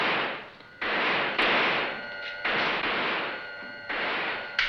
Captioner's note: motor whirring; guns firing